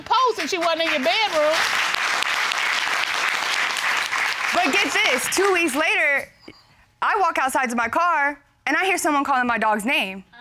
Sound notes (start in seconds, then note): 1.8 applause